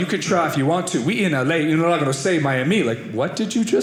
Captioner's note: mumbles Spanish